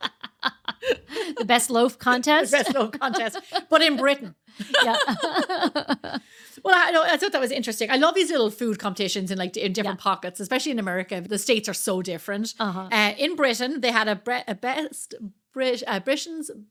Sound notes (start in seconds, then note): 6.4 laughing